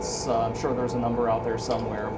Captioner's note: none